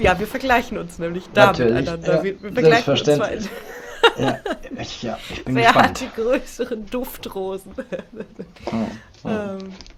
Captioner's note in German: gelächter